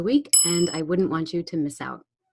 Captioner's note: bell dinging